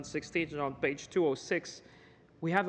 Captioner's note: speaking in french